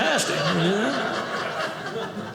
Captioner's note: audience laughing